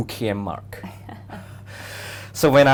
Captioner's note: both laughs